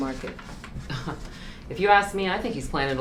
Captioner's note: scoffs